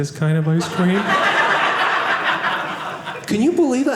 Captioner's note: audience laughing